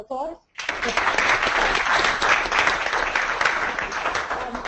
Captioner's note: crowd clapping